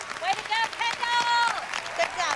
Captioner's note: applause